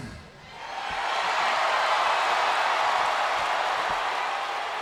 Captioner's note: crowd cheers